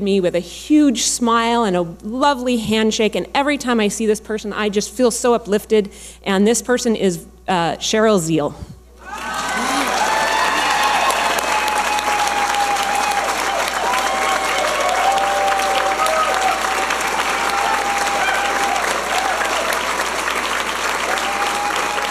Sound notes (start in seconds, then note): 9.5 audience applauding and cheering